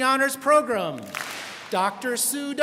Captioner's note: students clap